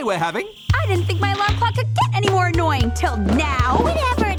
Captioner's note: alarm ringing